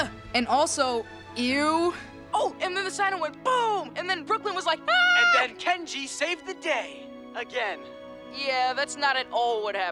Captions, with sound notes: And also, ew. Oh, and then the sino went boom. And then Brooklynn was like, [screams].. And then Kenji saved the day, again. Yeah, that's not at all what happened.